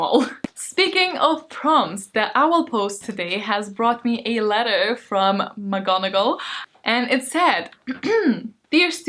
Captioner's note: ahem